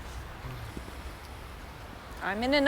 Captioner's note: Chris sighs